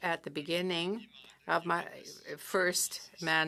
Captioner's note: speaking French